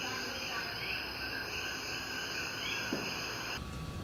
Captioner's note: crickets